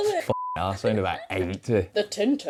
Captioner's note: beep